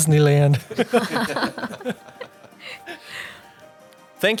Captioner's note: 笑聲